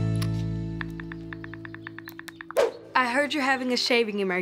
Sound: phone keyboard tapping

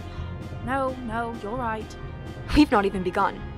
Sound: cuts himself off and sighs

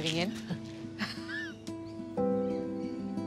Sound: laughs

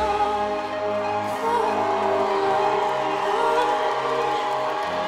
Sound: audience applauding

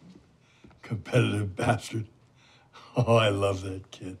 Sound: chuckling

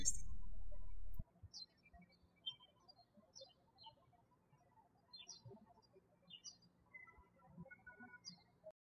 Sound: birds chirping

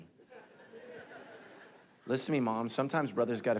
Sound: congregation laughing

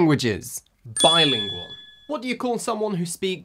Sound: bell rings

